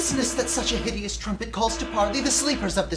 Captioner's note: alarum sounds